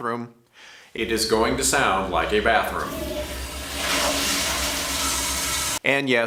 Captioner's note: flushing sound